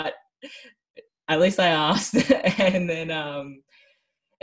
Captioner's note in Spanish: risas